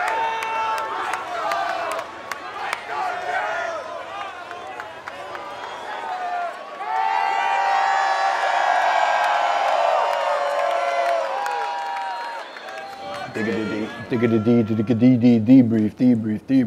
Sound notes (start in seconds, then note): 7.1 crowd cheering; 14.7 rapping